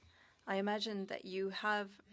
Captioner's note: speaking French